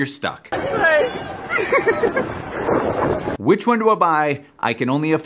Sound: laughs

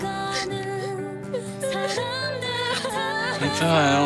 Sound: loudly crying

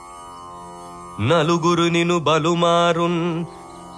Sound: reciting a poem

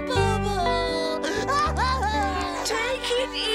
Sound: crying

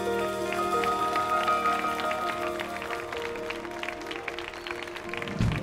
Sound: audience applauds

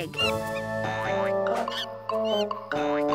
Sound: monkey screeches; gentle music

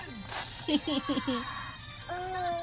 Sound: laughing

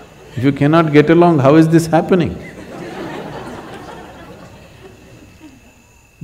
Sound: laughter

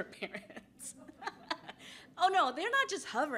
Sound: laughs

